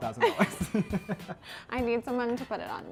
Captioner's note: both laughing